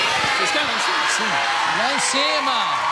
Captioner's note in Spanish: público se pronuncia